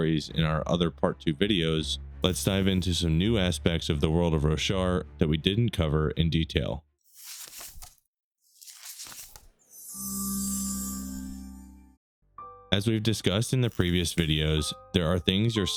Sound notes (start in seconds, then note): 8.5 pages turning; 9.9 shimmering